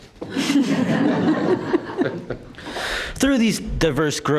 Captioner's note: members laugh